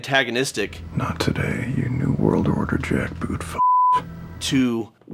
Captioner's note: beeps